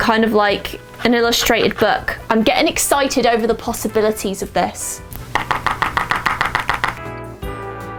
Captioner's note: hard tapping